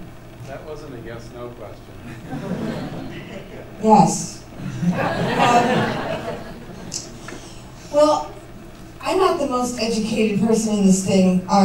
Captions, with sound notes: That wasn't a yes/no question. [laughter] Yes. [laughter] Well, I'm not the most educated person in this thing either.